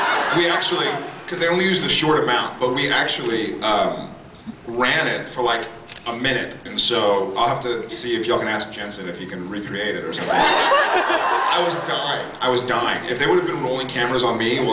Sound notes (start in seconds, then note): 10.3 laughs